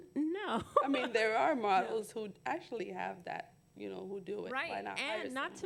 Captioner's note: laughter